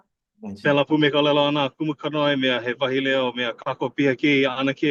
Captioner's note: speaks Hawaiian